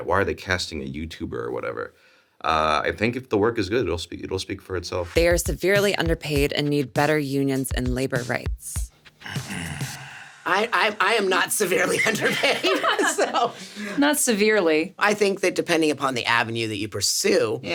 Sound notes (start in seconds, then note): 9.2 SungWon clears throat; 10.6 laughs; 11.7 Sarah laughs